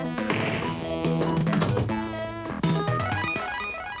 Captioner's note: door opens and closes